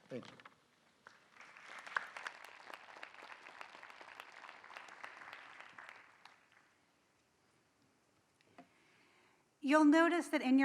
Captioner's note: applause